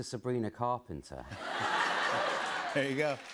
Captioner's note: laughter